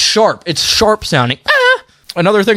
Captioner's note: imitates annoying sound